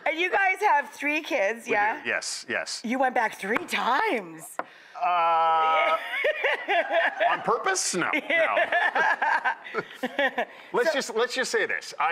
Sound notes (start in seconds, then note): 5.4 laughing